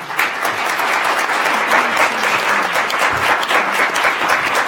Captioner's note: applauding